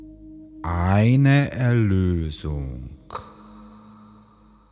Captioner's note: german